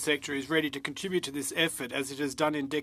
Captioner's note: speaking French